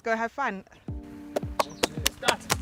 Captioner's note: clapping